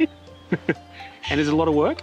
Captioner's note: both chuckle